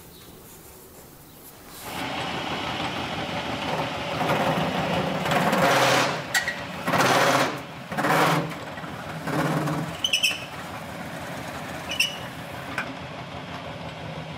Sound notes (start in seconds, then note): 2.2 rattling; 7.9 rattling, squeaking